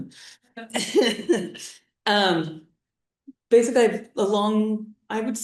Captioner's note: laughs